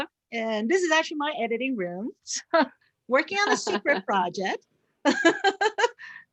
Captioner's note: laughs